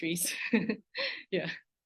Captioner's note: laughs